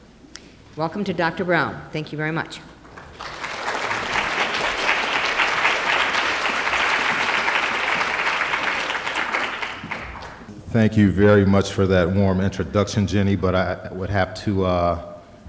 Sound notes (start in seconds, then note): 2.8 applause